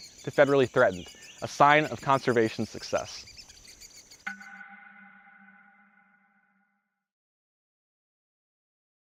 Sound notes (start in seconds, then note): 4.2 bell dinging